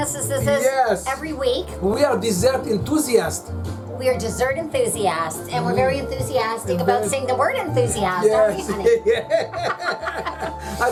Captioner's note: chortle; playfully